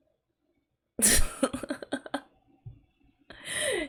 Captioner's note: laughs